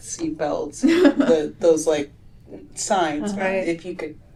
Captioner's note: laughter